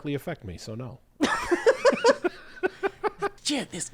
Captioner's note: both laughing